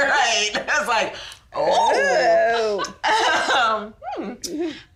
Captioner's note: laughs